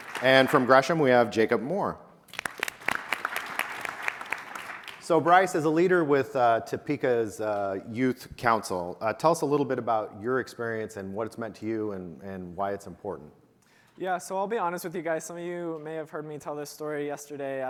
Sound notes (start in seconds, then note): 2.3 audience applauding